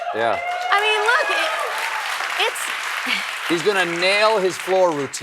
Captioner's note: applause